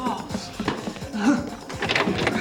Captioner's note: gasps